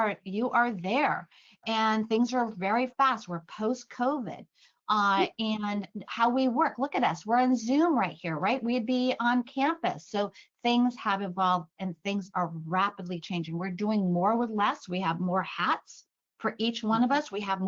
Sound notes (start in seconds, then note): none